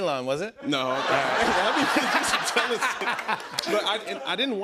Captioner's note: laughing